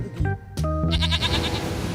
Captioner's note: bleats